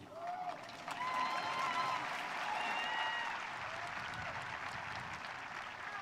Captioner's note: audience cheering